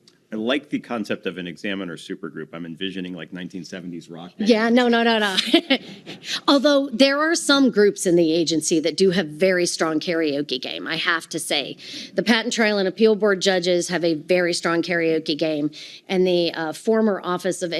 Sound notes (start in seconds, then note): 4.4 laughing